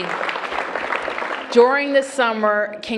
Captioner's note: applause